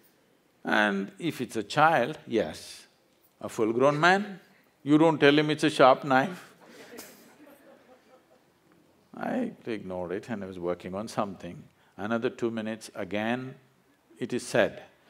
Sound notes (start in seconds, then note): 6.6 laughs